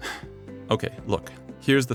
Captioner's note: sigh